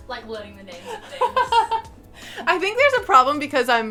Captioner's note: laughing